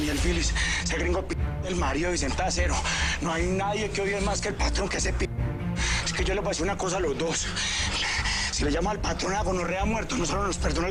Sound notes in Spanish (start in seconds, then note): none